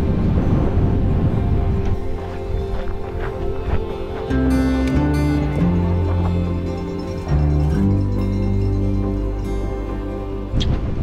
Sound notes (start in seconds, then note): 8.4 bell ringing